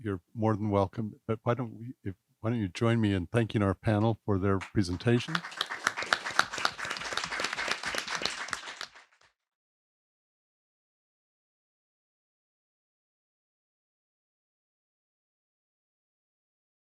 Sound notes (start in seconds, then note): 4.6 audience applauding